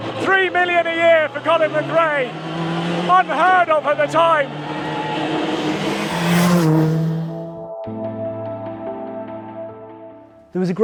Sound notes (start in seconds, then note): 4.5 engine rasping; 7.3 mellow music